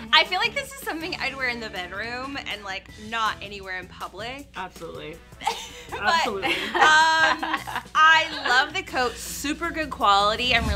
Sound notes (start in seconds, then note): 5.4 laughs; 5.4 girls laugh